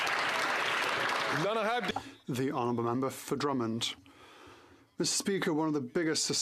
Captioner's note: some Applause